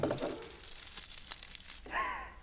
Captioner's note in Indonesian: Nyam-nyam